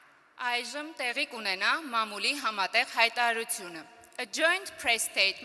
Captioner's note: speaking Armenian